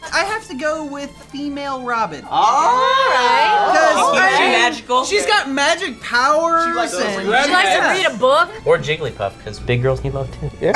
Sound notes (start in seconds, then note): 2.3 group agreement